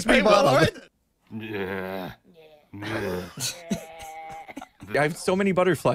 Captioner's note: making zombie noises